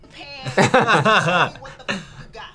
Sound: both laugh

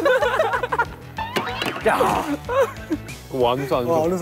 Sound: the other members laugh

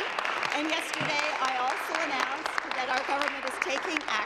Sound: applause

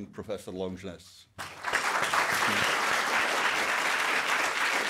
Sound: audience applauding

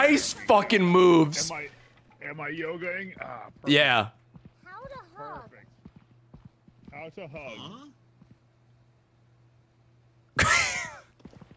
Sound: laughs

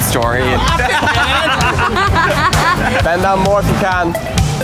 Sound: laughing

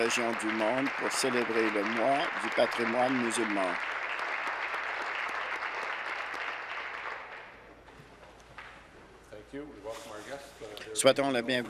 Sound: applause

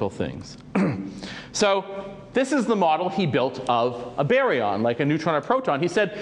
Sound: cough

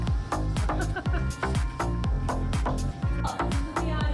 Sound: cameraman laughing

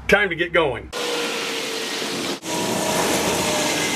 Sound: race car

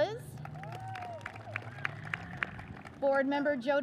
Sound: audience cheers and applauds

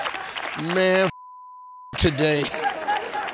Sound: beep

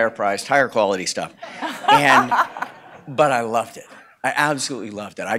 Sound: laugh

